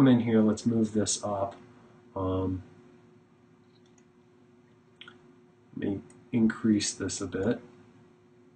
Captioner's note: clicking